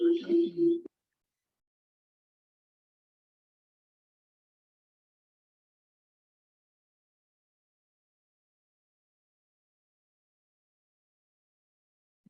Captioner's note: audio echoing